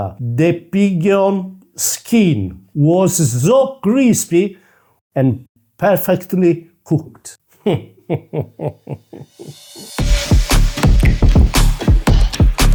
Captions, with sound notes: So, the pigeon skin was so crispy... and perfectly cooked. (giggles)